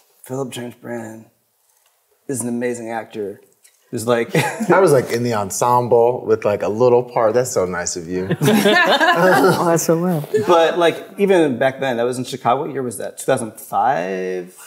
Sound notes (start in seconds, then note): 4.3 chuckles; 8.3 everyone laughs